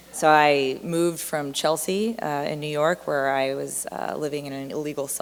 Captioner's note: none